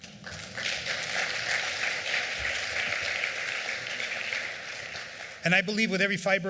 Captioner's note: applause